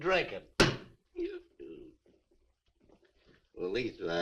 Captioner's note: Harris belches